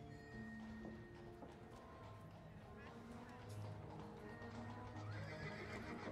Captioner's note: sounds of busy city